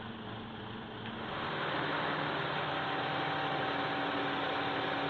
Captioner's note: running diesel engine